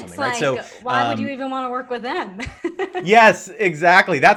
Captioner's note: laughs